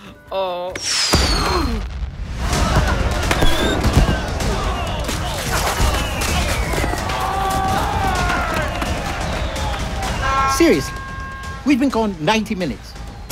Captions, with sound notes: [Groans] [Shouting] -Seriously? We’ve been gone 90 minutes.